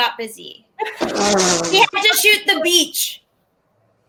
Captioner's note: colleagues laugh